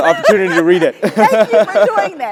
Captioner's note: laugh